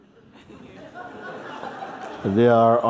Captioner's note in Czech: Smích